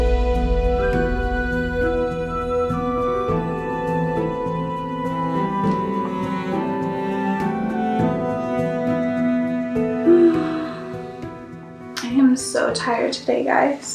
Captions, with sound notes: [SIGH] I'm so tired today, guys.